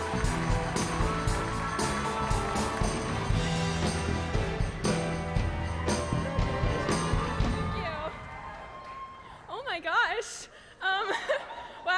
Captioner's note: applause